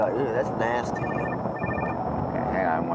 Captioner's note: phone ringing